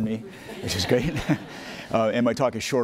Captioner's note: audience laughing; laughing